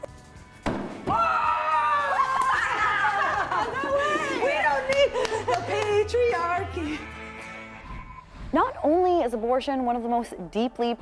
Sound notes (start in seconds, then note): 0.6 axe hitting wood; 2.7 laughing